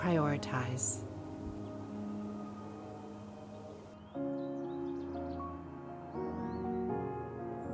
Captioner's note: birds chirping; gentle music